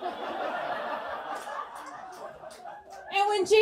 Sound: audience laughs

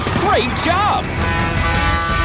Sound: honking

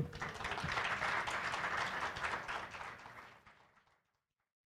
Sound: applause

